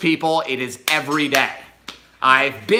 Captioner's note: hands slap